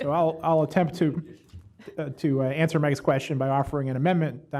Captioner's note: laughter